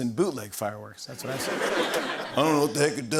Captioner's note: laughter